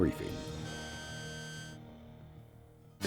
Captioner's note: scan beeping